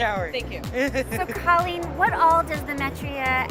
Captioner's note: laughter